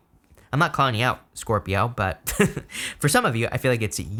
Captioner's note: laughing